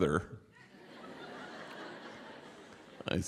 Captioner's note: laughter